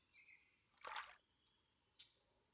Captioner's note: splash